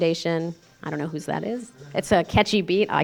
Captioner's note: cell phone ringing